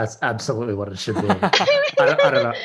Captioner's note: laughs